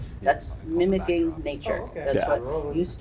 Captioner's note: background chatters